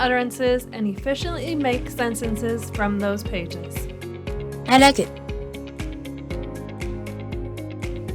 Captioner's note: device speaks